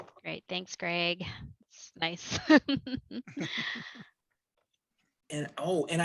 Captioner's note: laughter